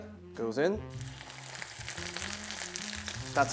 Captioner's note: sizzling sound